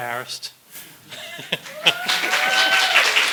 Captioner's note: laughs; cheering and applause